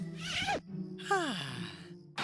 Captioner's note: Alejandro Sighing